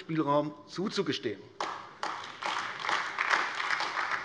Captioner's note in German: Beifall AfD